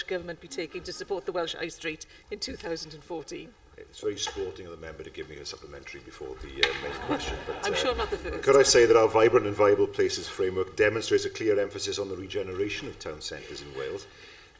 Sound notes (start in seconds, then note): 8.3 laughter